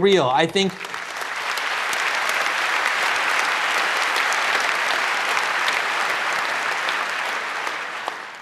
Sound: applause

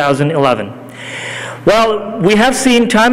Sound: none

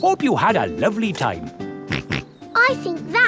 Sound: snorts

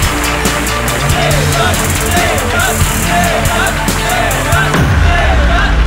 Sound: chanting

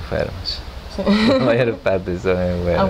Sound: laughts

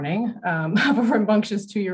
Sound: laughs

